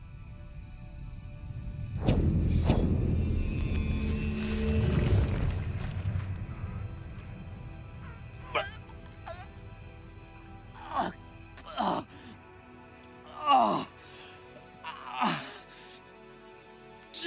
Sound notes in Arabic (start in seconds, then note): 1.4 موسيقى هادئة; 6.5 موسيقى هادئة; 8.3 آهات